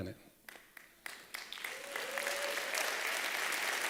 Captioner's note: applause